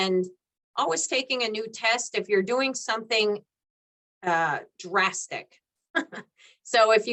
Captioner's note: chuckles